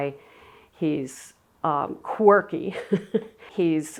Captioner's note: laughs